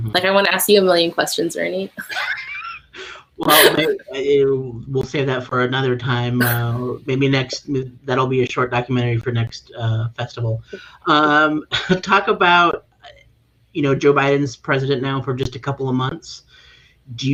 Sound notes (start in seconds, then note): 3.4 chuckling